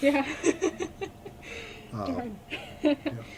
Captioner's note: laughs